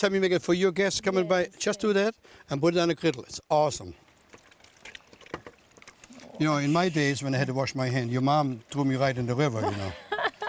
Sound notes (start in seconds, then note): 2.7 sound of water; 4.8 sound of water; 9.6 laughs